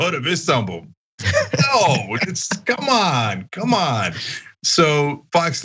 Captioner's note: laugh